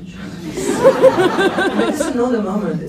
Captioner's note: laughs